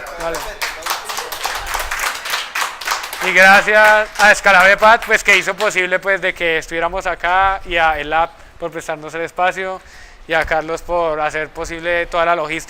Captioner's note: applauses